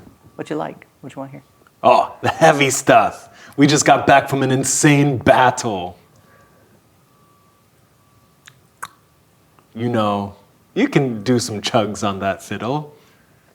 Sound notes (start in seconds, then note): 8.7 clicks tongue